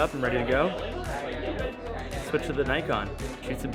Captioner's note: chattering